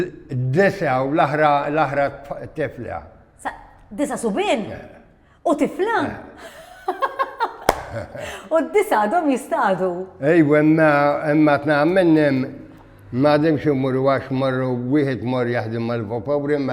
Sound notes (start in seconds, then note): 6.4 laughs